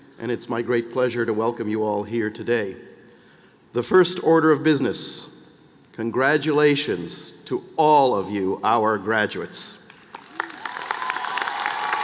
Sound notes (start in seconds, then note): 4.1 cheers and applause